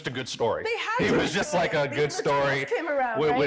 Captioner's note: speaks faintly